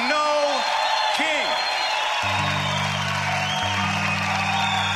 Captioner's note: cheering and applause